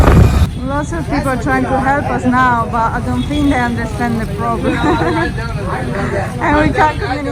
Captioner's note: laughing